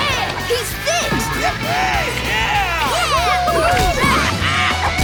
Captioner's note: roars; cheering